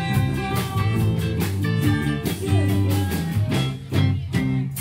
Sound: foreign language

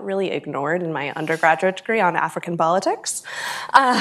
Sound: laughs

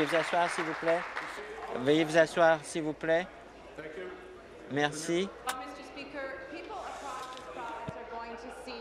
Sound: applause

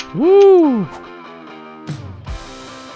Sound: shouts

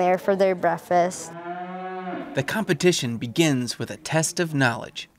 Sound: steers mooing

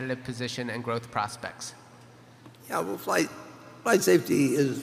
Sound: none

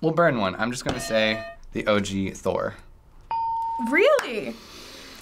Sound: ding

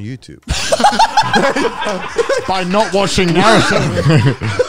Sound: all laughing

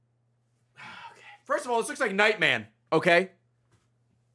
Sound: sighs

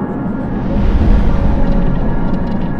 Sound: whoosh

